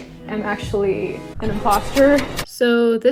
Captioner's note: stabbing sounds